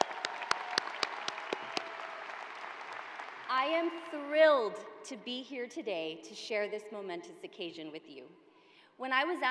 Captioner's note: applause